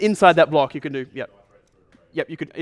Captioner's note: voiceover